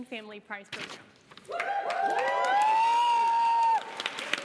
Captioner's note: cheering, applause